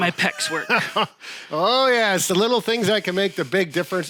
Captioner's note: laughs